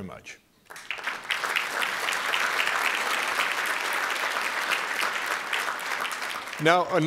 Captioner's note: applause